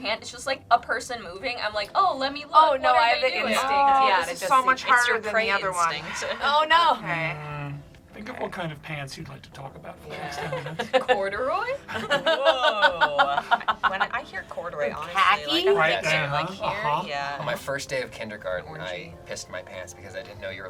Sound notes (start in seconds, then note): 5.9 sighs; 11.8 laughs; 11.8 group laughs